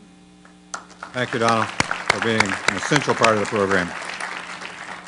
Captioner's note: applause